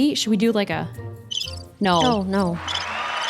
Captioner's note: birds chirp; applaud